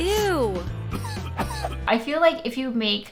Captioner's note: coughing